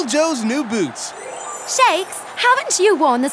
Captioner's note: shimmering